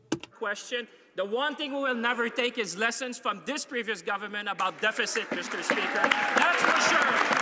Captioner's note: some Applause